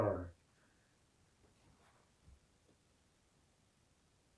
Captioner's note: pauses 6 seconds